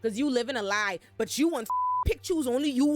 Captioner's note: beep